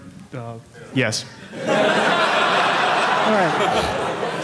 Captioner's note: audience laughing